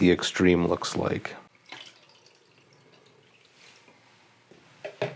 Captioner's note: pouring